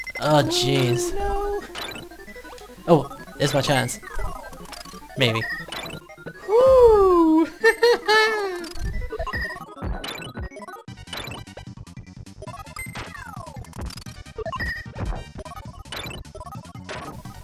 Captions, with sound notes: - Oh geez. - Oh no! - Oh! Here's my chance, maybe. - Whew! [nervous laughter].